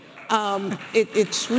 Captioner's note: audience applauding